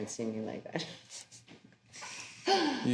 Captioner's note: chuckling